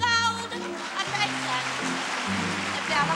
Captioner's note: applause